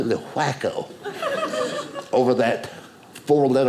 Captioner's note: audience laughing